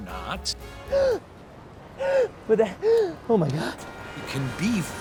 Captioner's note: man gasping